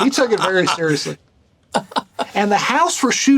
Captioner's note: Burnett laughing